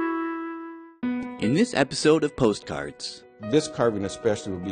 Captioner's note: voiceover